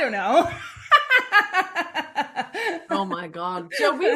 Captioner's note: laughing